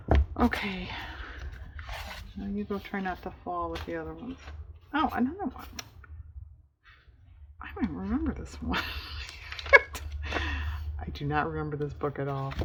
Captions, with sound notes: okay, go try not to fall with the other ones oh another one i don't remember this one (laughs) i do not remember this book at all